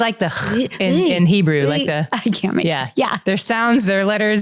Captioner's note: making Hebrew sounds